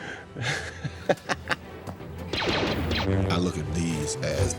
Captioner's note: Jackson Laughs